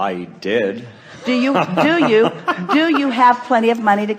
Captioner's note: the guest laughs